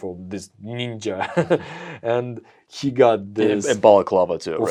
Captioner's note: laughs